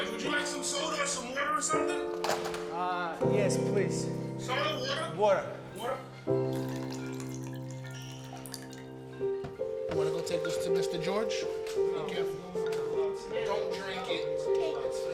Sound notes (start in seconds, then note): 6.4 water trickling; 8.9 gentle music